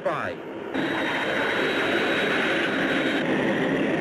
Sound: planes roaring

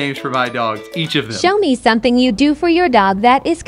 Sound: robotic Voice

